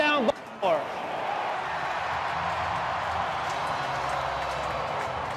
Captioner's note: crowd cheering